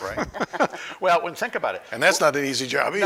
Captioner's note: laughing